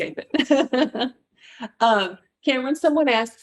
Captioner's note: laughs